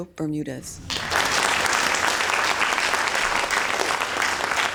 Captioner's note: audience applause